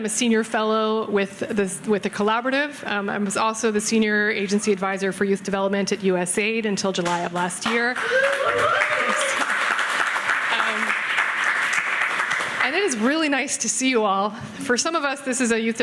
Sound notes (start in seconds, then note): 7.6 audience clapping